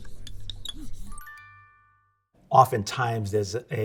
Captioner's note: bell chimes